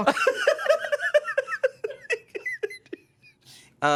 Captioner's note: everyone laughs